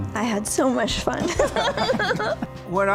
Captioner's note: laughter